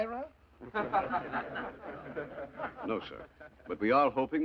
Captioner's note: delegate Chuckling